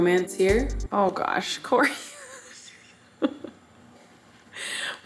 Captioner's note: laughs